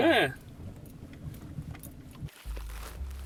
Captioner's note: footsteps